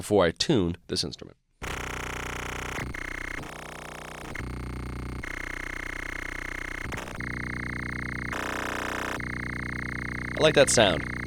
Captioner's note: electronic sounds